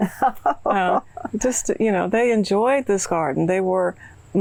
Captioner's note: laughing